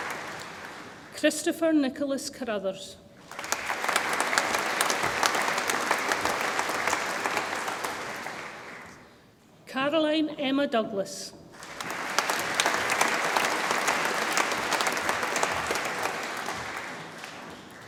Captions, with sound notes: Kristoffer Nicholas Carruthers, (audience applauds) Caroline Emma Douglas, (audience applauds)